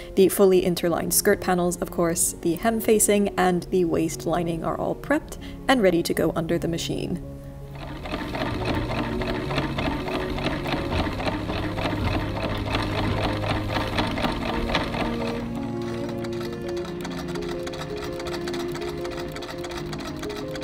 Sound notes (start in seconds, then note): 7.7 yet more antique sewing machine ASMR; 17.0 soothing machine clickity clack